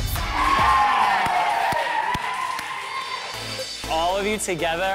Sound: all cheering

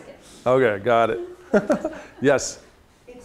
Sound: chuckles

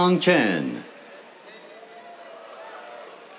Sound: cheers

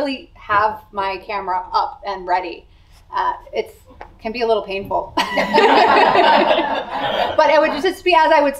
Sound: laughter

